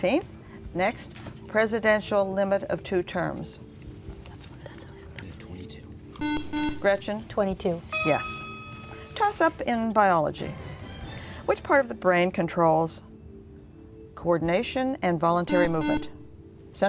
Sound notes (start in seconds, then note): 3.6 whispering; 15.4 buzzer